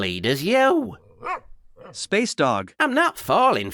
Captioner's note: bark